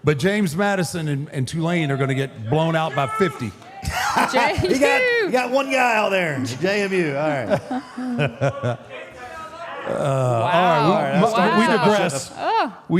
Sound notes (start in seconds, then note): 3.8 Mark laughs; 7.2 all laughs